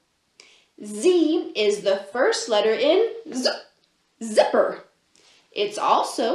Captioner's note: zoop